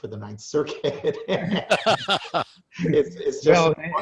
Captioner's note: laughing